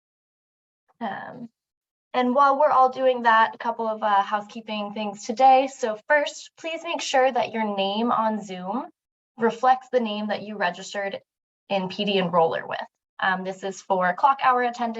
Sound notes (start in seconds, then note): none